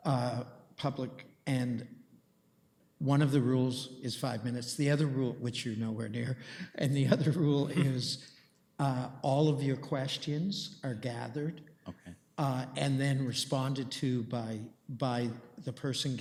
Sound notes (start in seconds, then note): 6.6 chuckles